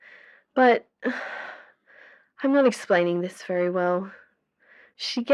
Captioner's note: sigh